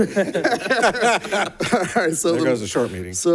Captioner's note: board members laughing